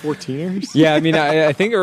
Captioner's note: laughs